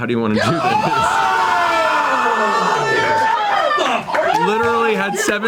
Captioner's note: screaming and cheering